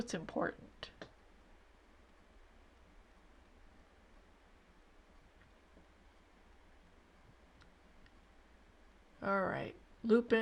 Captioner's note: silence